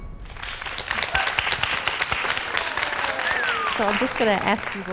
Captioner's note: upbeat lively music; crowd claps